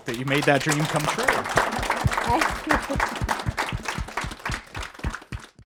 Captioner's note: applause